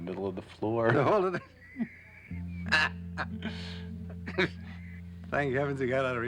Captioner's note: laughing